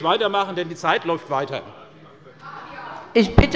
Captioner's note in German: Unruhe bei der CDU und dem BÜNDNIS 90/DIE GRÜNEN